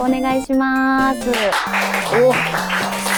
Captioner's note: applause